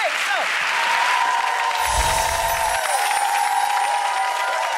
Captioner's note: screams and applause